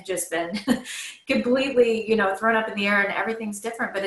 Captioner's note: laughs